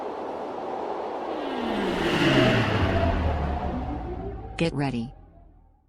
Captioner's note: aircraft whirring